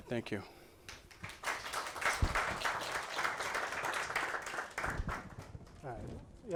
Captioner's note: applause